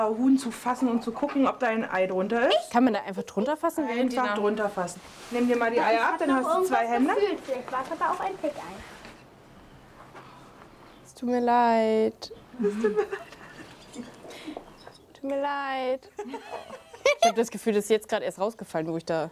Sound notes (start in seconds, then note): 12.5 giggles quietly